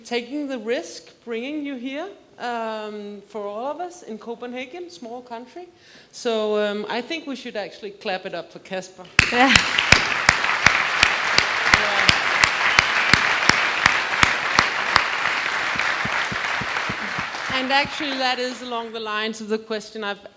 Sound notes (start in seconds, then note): 9.2 audience applauds